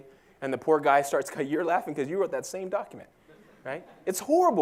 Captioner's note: laugh